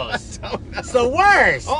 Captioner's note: laughs